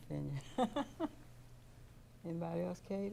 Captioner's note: laughing